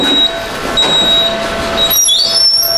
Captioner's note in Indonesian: suara beep